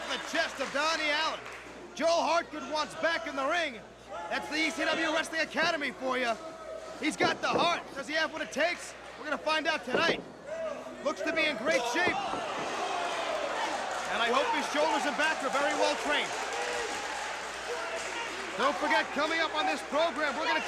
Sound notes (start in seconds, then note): 17.2 crowd cheering